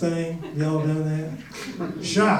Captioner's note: audience chuckles